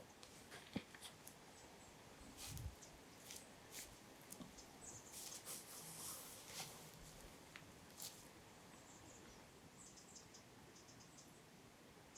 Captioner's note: rustling